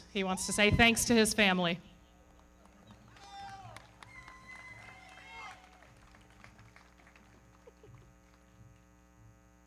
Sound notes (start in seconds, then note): 2.2 audience cheering; 2.2 everybody clapping